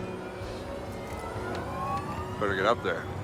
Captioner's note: siren